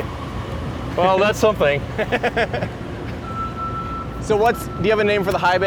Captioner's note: laughs